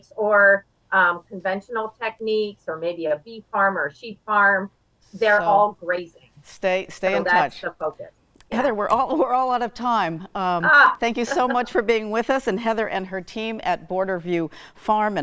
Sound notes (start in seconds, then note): 11.2 laughs